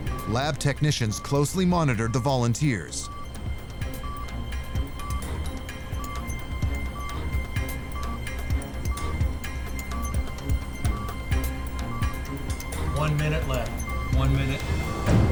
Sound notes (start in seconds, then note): 5.0 beeping continues; 9.7 music tension intensifies